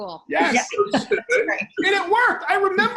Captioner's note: laughing